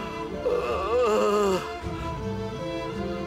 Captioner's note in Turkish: Ağlıyor